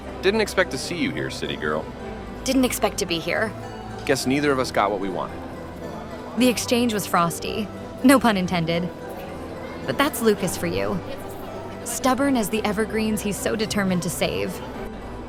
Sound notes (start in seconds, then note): none